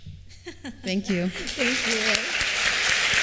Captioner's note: applause